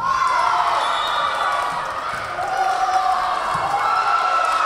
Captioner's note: whistle blowing; Tigers cheering